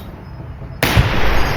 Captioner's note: gunshot